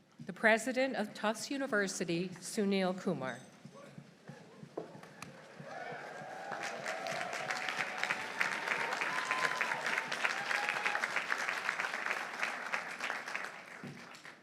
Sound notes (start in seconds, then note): 5.1 audience applauding; 5.2 audience cheering